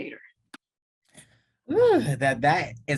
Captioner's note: sigh of joy